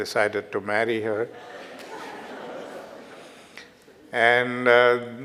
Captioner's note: audience laughter